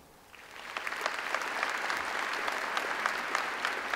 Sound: audience applauds

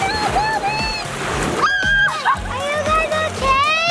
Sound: mom screaming

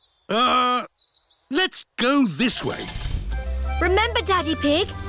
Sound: starts engine

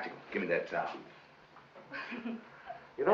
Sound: laughing

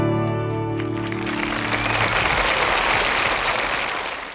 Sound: audience applauding

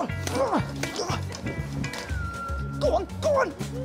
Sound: grunting

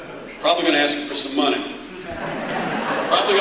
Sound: laughter

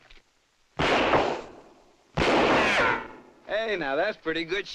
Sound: gun firing

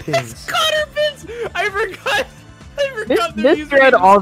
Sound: laughs; laughs

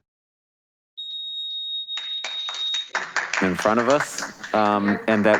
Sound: audience applauding

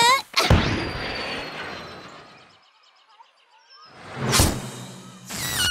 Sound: whooshing; squealing

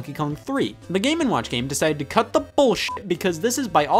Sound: beep

